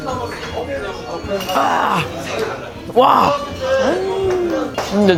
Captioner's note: A real scream straight from the heart